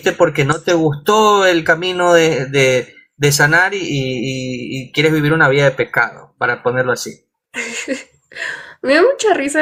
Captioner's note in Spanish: risas